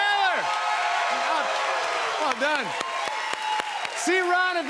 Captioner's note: cheers and applause